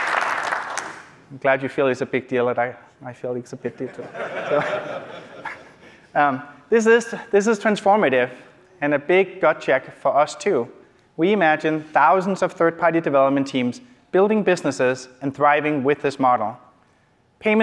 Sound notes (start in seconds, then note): 3.7 laughter